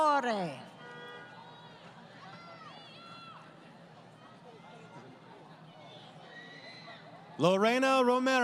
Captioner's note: crowd Cheering